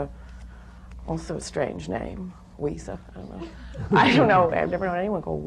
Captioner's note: laughter